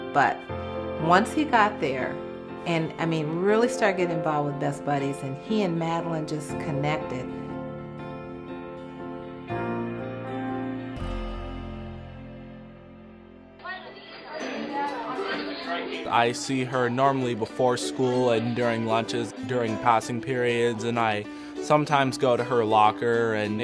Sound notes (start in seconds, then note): 7.7 gentle inspirational music; 13.6 students chattering